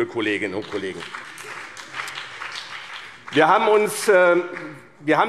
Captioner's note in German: Beifall BÜNDNIS 90/DIE GRÜNEN und vereinzelt CDU